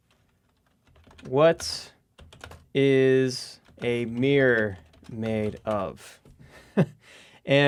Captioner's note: chuckles